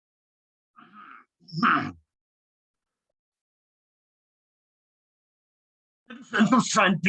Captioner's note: clears throat